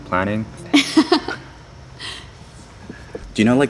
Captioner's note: chuckles